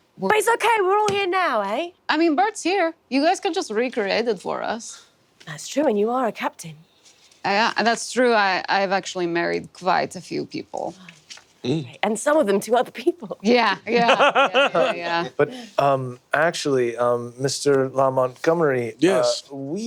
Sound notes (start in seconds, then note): 13.9 laughs